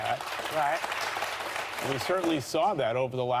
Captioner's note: applause